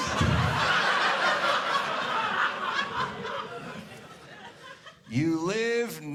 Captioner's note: audience laughing